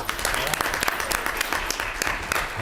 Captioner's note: clapping